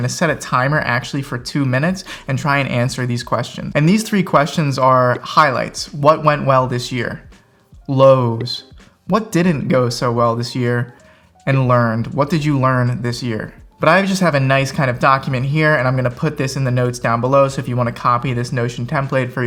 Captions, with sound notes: I'm gonna set a timer actually, for two minutes, and try and answer these questions. And these three questions are highlights. (graphics pop) What went well this year. Lows. (graphics pop) What didn't go so well this year? And learned. (graphics pop) What did you learn this year? But I just have a nice kind of document here, and I'm gonna put this in the notes down below. So if you wanna copy this notion template